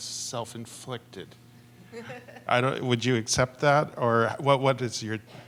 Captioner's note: laughter